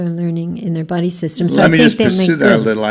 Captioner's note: voiceover